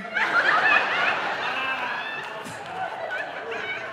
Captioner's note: audience laughing